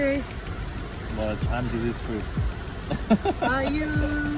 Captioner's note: laughing